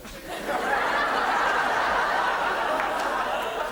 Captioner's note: audience laughs